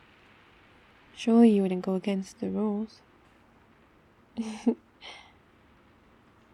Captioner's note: laughs